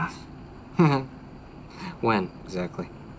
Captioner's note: laughing